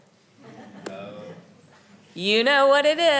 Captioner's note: audience laughing